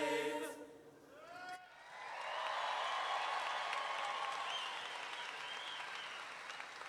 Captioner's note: audience cheering